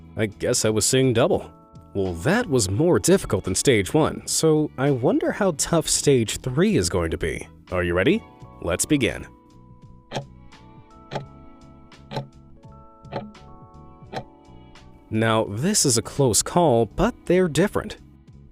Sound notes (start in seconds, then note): 10.2 timer ticking